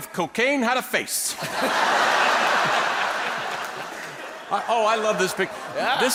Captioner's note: people laughing